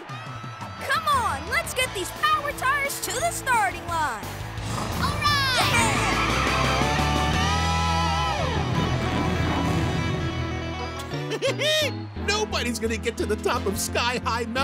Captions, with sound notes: Come on, let's get these Power Tires to the starting line. - All right! - Yeah! [giggles] Nobody's going to get to the top of Sky High Mountain